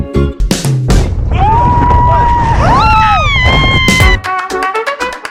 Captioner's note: screams in Spanish